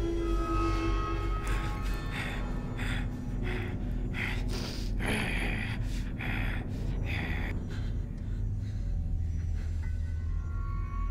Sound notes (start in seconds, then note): 2.2 Tracy growling; 7.7 Lyne gasping